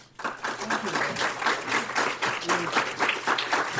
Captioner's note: applause